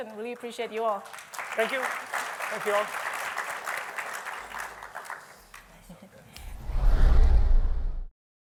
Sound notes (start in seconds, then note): 2.9 applause